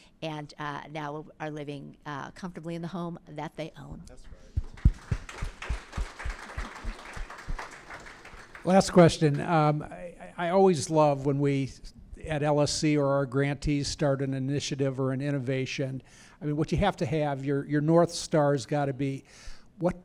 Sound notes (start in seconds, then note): 7.6 applause